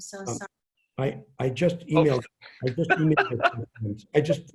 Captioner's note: laughing